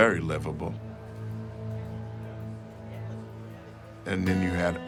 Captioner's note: pensive music continues; crowd chattering